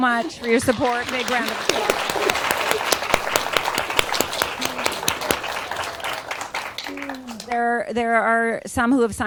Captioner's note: applause